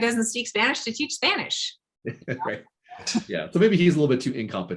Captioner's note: chuckling